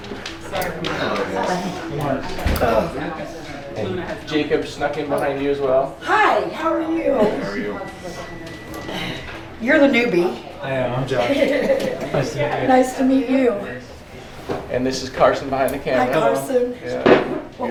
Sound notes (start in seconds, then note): 11.2 laughing